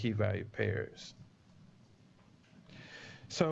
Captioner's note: pause